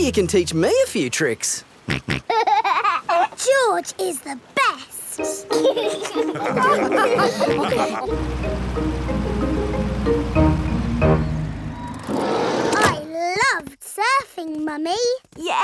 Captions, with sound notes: Maybe you can teach me a few tricks? (SNORTS AND LAUGHS) George is the best! (ALL LAUGH) I loved surfing, Mummy!